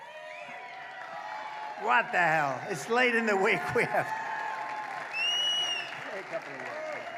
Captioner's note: applause